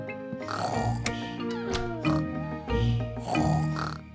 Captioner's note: both snoring